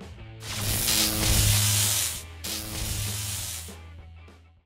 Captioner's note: electric buzz